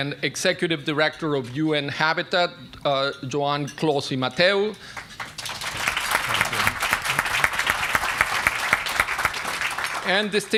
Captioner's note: applause